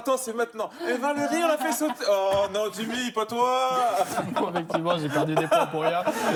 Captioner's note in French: rires